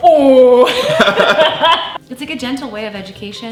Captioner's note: laughing